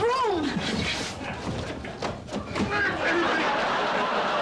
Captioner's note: grunting